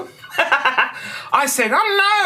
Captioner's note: laughter